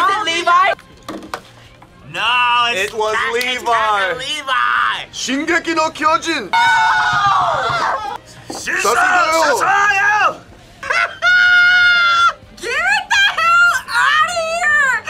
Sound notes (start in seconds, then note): 5.4 speaking Japanese; 8.7 speaking Japanese; 10.8 laughs loudly